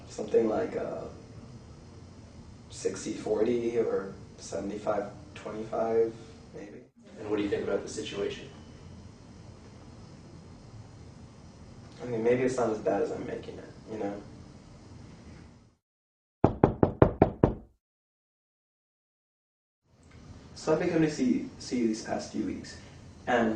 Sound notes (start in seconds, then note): 16.4 knocking